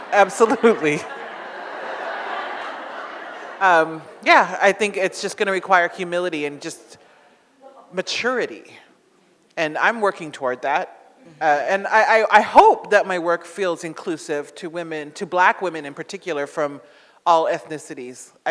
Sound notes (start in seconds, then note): 0.0 audience laughs